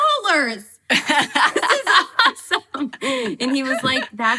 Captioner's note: laughing